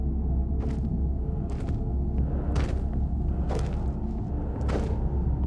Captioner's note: footsteps approaching